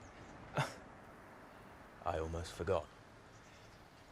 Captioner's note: James chuckles